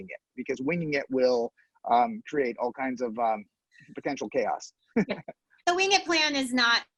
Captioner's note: laughs